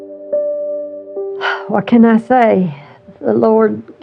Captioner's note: exexhahales s shsharpl